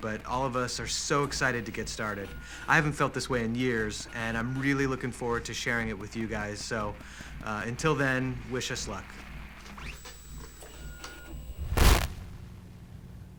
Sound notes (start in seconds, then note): 11.0 static